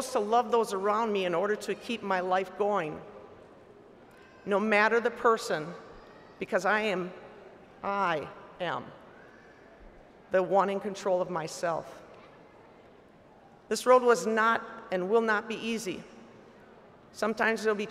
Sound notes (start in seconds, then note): none